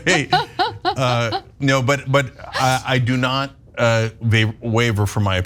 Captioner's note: laugh